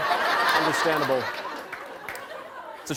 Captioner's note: laughter